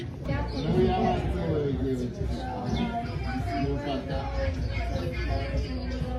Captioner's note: birds tweet and people talk at the restaurant